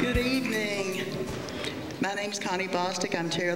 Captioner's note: none